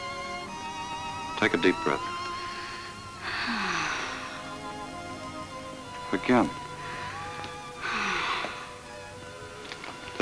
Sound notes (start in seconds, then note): 3.2 sighs; 7.8 sighs